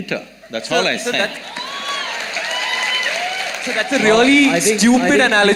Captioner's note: cheering